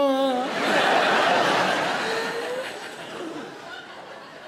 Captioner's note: audience laughs